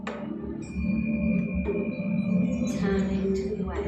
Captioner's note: chiming